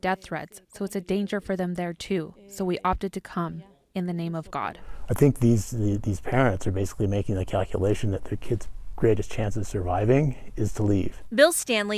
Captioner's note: speaking spanish